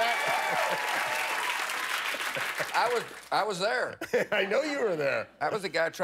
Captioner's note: laughter